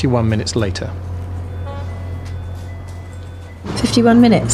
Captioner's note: traffic rumbling; siren wailing